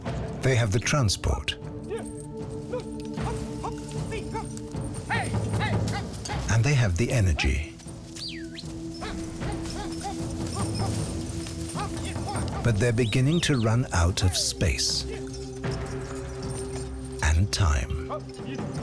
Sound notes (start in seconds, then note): 2.2 lumberman yells; 8.1 whistles